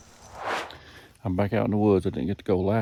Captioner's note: air swooshes